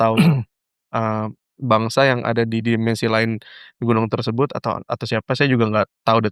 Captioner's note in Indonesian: berdehem